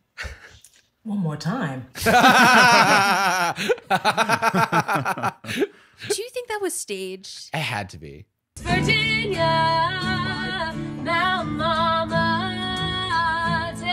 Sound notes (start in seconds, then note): 2.0 laughing